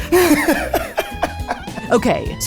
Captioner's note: laughs